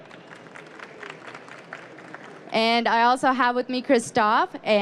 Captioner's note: applause